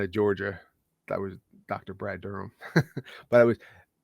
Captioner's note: chuckles